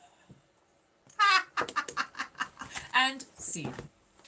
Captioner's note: laughing